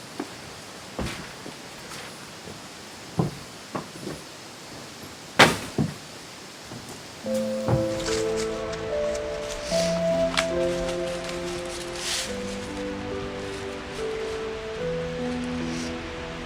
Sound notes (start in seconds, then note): 5.4 door slams; 7.2 solemn music